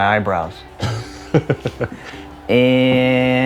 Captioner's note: chuckling